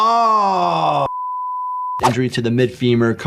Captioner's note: screen clicking; test screen beeping